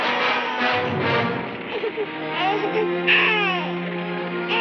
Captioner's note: child cooing